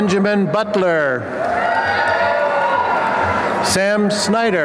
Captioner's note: applause and cheering